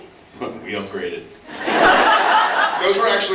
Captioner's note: laughs